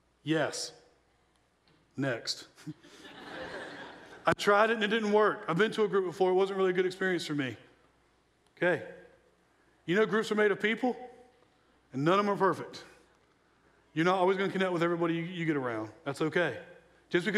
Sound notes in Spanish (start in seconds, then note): 2.8 la audiencia se ríe